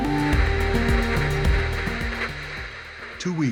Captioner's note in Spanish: Estática